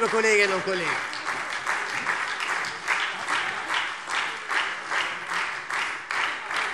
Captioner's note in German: Beifall SPD und Freie Demokraten